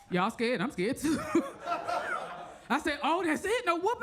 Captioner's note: audience laughs